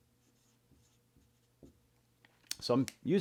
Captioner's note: pen scratching